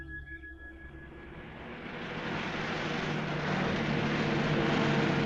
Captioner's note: car engine rumbling